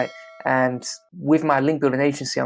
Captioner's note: bell dings